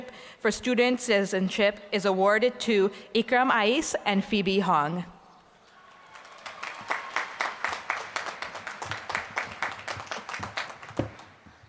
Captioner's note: applause